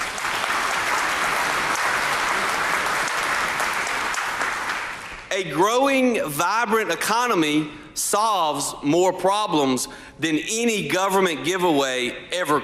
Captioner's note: applause